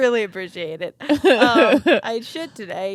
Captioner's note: laughing